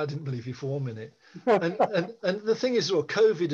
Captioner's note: laughing